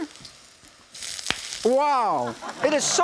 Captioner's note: wok sizzling